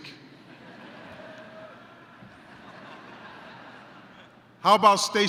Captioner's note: yelling, laughter